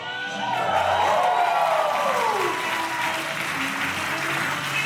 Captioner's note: audience applauding